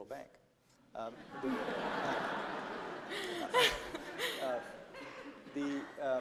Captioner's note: laughter